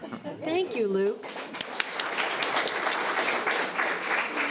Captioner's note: audience applauds